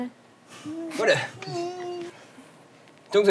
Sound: is sobbing

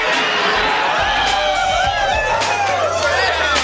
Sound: wild cheering

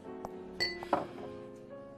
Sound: glass clinks

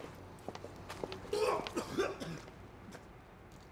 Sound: vomit noises

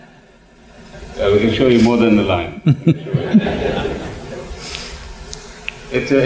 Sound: laughter; laughter

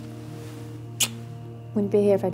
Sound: kiss

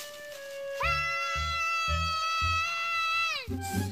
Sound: Jeff screams

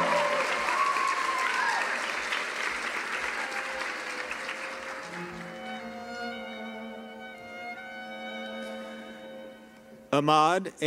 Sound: cheering and applause

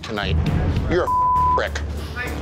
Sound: beep

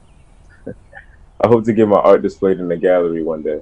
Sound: laughs

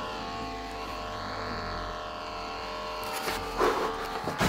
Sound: growl

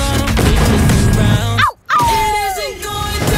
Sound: howls

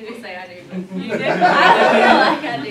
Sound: laughter

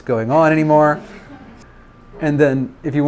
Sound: students laugh

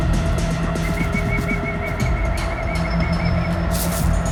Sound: whistles

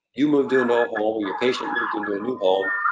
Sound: sirens blaring

